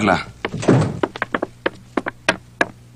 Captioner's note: door opening, closing